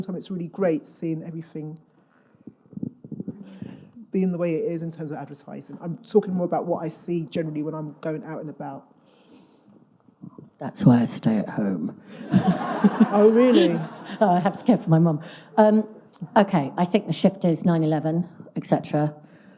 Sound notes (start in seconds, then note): 12.1 all laughing